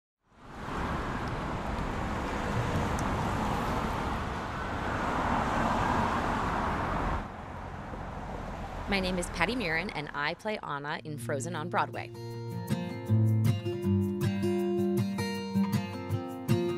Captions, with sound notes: (traffic passing by) - My name is Patti Murin and I play Anna in "Frozen" on Broadway. (bright music)